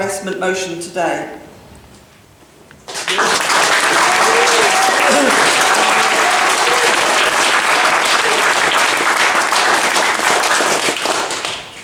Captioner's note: applause